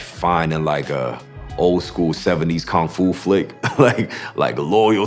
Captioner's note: laughs